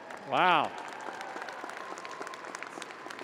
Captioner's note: audience applauding